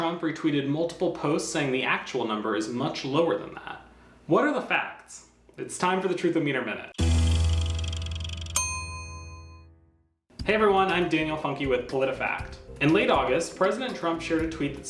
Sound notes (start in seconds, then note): 7.0 dramatic music; 7.6 bell dings